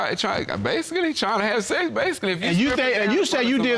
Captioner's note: stammers